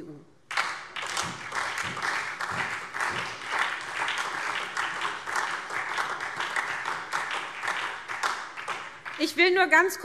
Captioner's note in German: Beifall SPD